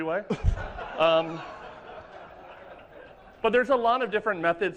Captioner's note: laughter